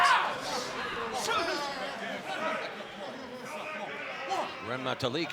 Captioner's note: crowd shouting; shouting